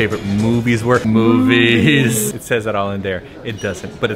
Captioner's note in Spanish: mugido de la vaca